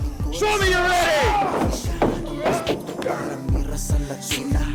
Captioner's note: Jesse with a loud thunderous roar leaps up